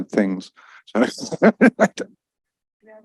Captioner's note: laughs